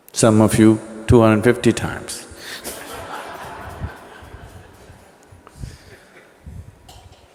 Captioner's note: laughter